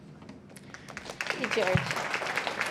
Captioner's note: applause